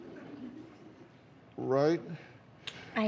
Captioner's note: scattered laughter